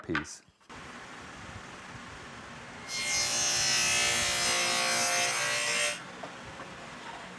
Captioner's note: saw Noise